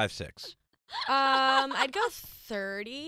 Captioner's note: laughs